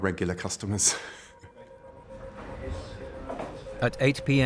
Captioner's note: laughs